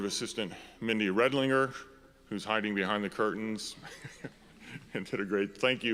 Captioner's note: laughs